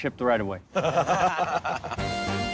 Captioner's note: laughter